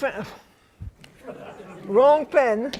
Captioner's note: laughter